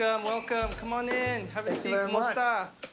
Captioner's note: speaks foreign language